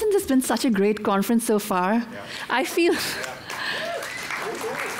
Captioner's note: applause